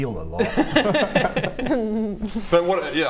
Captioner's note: nice try laughter